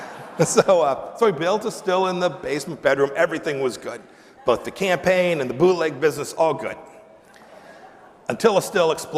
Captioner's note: laughter